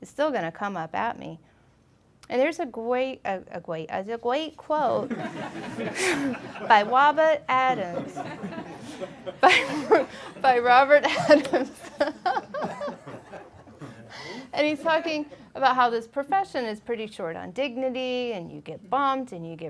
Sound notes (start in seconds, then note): 5.0 laughing